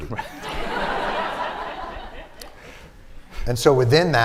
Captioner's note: laughter